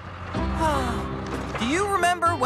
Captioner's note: sighs